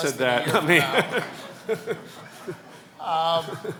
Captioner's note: laughs